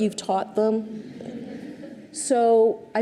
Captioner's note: audience chuckles